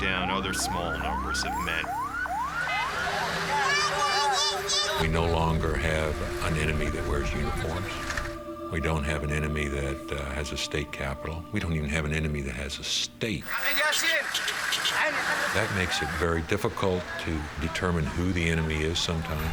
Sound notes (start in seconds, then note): 2.2 siren wailing